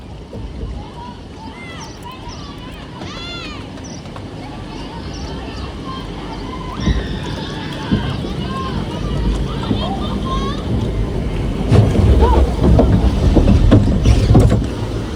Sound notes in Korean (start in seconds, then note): 7.8 도르륵 드르륵, 내려갈 준비하는 소리